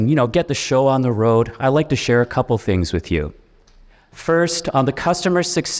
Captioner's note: none